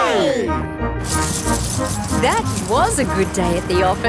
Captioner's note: coins jingling